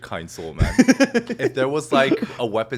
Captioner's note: Hyram giggling